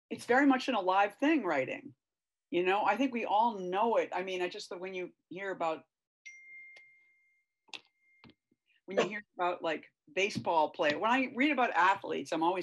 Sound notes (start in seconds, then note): 6.3 beep sound